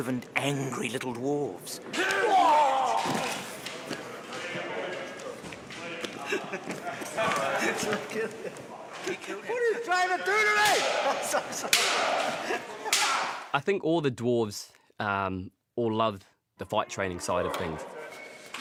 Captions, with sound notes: ...angry little Dwarves. [GRUNTS] [LAUGHING] -What are you trying to do to me? -I'm so sorry. I think all the Dwarves all loved the fight-training side of things.